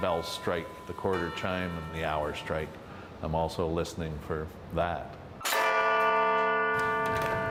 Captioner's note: bell rings